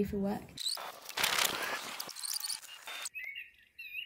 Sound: rewind sound

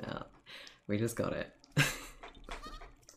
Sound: laughs

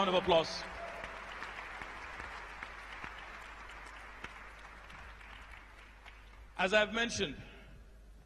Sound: applause

